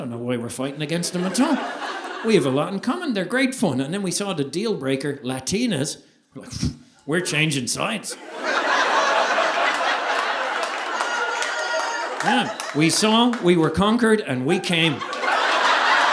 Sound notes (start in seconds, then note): 8.1 audience laughing; 14.6 audience applauding